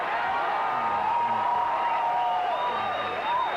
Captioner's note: cheering